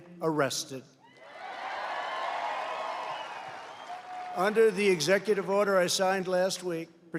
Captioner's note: applause